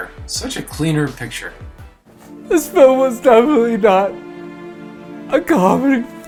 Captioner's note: crying with sad music in the background